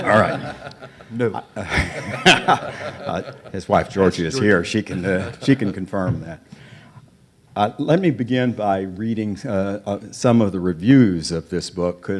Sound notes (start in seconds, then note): 2.3 audience and panelists laugh